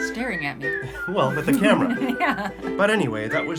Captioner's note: chuckles